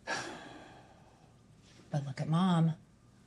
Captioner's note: sighs